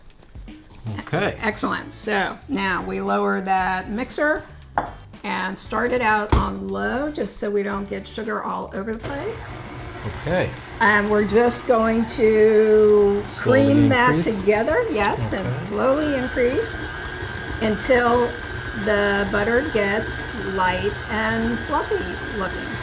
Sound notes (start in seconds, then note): 9.8 mixer humming; 16.5 mixer whirring